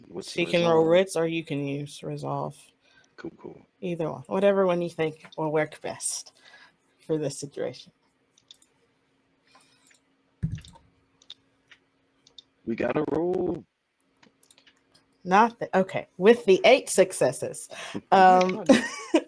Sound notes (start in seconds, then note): 14.4 Roll20 clicking